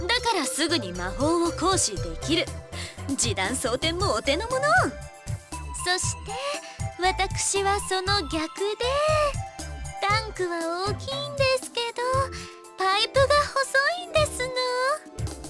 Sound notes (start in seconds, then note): none